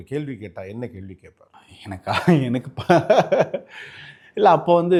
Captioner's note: laughs